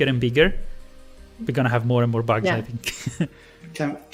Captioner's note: laughs